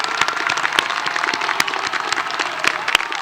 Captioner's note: applause